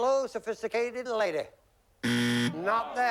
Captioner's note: buzzer